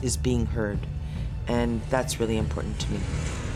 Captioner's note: snowmobiles running